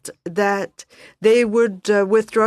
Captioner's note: speaking French